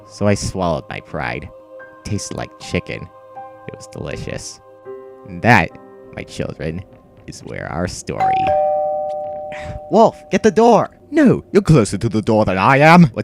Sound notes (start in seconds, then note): 8.2 doorbell